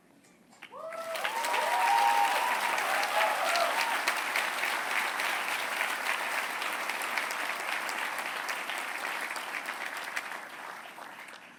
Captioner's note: applause